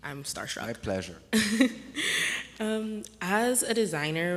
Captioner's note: laughs